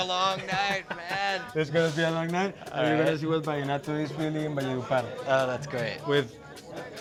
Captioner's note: speaking spanish